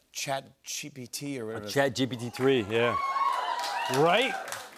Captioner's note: cheers and applause